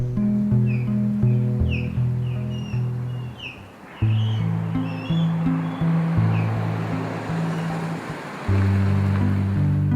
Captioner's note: osprey calling